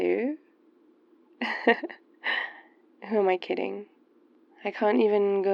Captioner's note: laughs